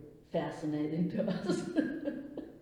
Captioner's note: laughs